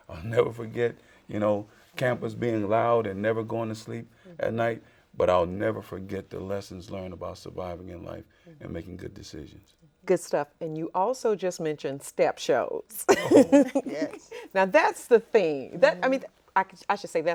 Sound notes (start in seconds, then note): 13.0 laughs